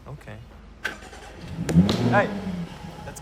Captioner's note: car engine revs